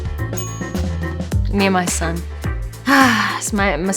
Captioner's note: exhales